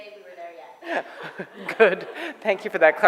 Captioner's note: laughter